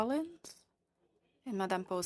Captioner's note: speaking French